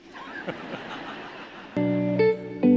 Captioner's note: audience laughing; bright music